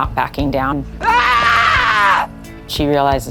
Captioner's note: screams